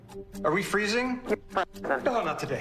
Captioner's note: glitching audio